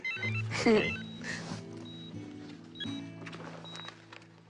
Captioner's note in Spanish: Suena el celular; Risas